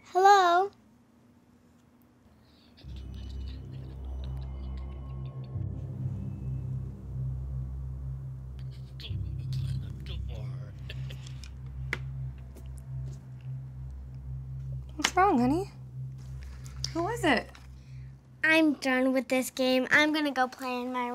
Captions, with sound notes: Hello? -(malevolent mumbling)- -(snickering)- What's wrong, honey? Who is it? I'm done with this game. I'm gonna go play in my room